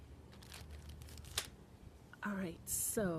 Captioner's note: rustling; packet thuds